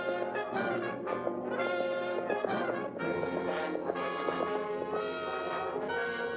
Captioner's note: suspenseful music; hooves trotting; suspenseful music